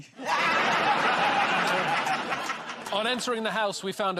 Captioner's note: laughter